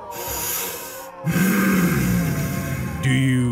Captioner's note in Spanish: sonidos de pesada respiración